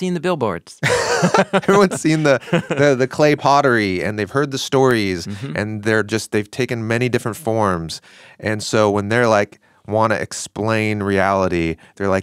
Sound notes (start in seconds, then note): 0.8 both laughing